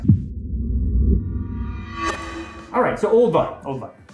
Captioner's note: dramatic sound